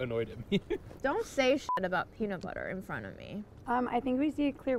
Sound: beep

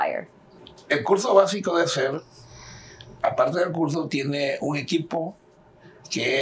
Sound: speaking in Spanish

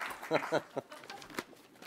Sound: chuckling

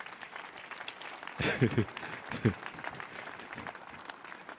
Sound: audience clapping

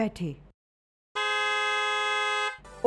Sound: car horn blares

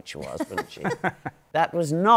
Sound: laughter

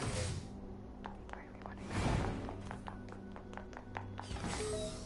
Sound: whispers

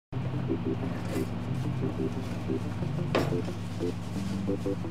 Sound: microwave hums

